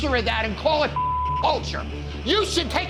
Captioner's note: beep